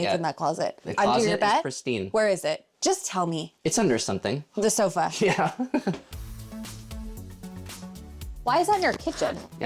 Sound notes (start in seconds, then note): 6.0 laughs; 6.0 lively music